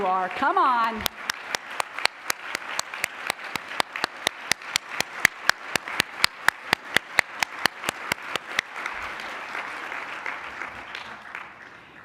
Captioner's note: applause